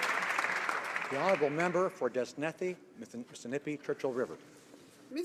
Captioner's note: some Applause